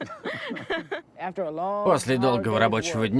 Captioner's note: both laugh